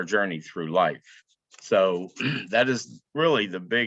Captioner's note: clears throat